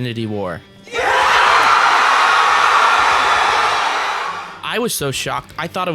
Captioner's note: cheers